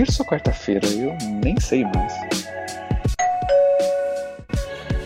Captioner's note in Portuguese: ding-dong